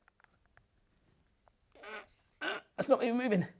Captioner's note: grunts